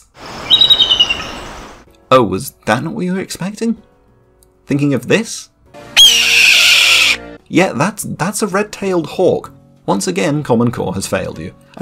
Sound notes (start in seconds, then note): 0.4 eagle Trilling; 6.0 Freedom Screech